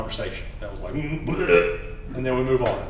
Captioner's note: throw up sound